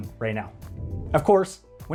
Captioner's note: air whooshes